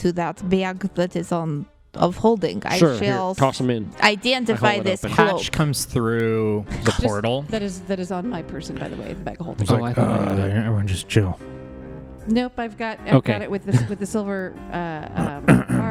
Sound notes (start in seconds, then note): 13.7 chuckles